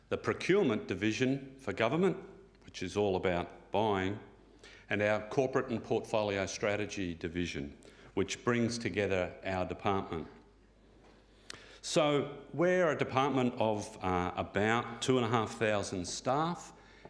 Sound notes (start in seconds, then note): none